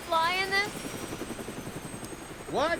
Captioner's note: aircraft noise